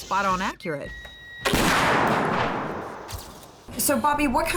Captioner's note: gunshot